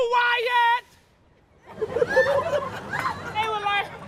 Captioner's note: laughter